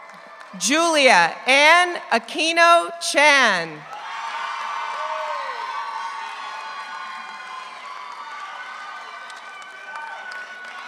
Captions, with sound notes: Julia Anne Aquino Chan. (audience cheers) (audience applauds)